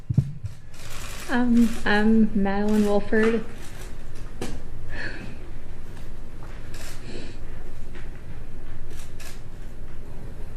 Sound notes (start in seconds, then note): 5.2 laughs nervously